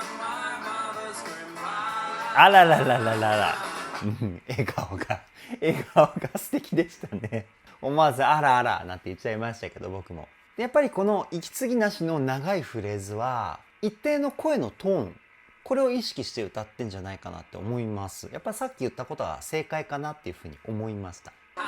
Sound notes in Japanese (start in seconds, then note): 9.6 笑い